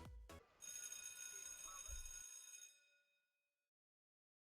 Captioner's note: school bell rings